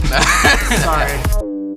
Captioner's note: all laughing; electronic music